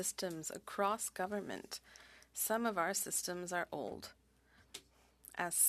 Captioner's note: speaking French